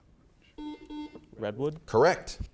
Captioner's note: beeping